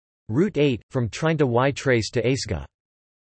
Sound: in Spanish

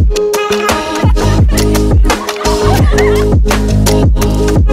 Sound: laughing

